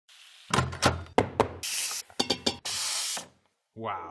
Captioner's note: pots and pans knock